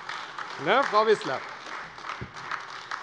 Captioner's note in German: Beifall AfD